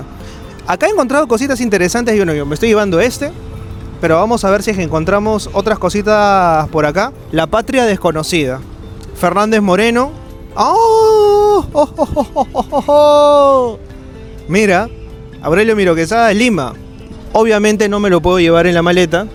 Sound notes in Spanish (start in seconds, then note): 10.8 grito; 11.6 risas